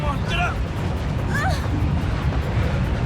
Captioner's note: Carol groans